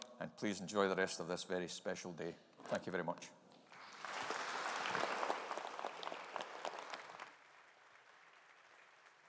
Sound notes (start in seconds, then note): 3.7 audience applauding